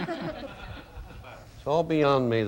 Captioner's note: audience laughing